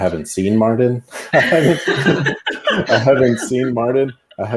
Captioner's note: all laugh